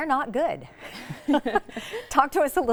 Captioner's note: laughs